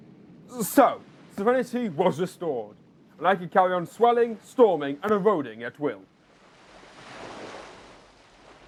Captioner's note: wave crash